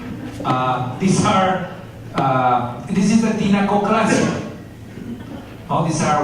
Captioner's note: spanish